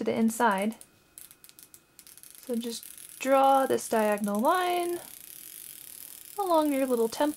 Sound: chalk makes rattling noise

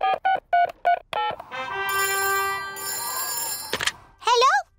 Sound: dialing; phone rings

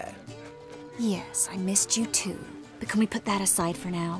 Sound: sarcastically

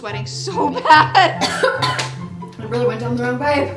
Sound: coughs

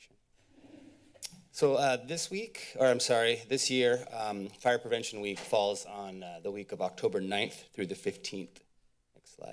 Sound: tsk

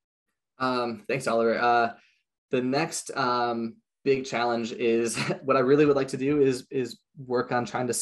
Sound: chuckles

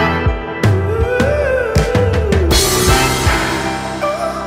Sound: vocalizing continues

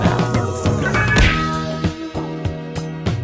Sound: punch Sound

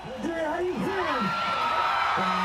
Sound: crowd cheering

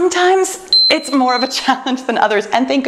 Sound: timer beeps

